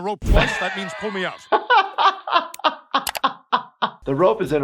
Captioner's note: doctor laughs